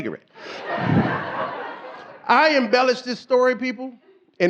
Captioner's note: audience laughing